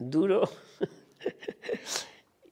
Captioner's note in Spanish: ríe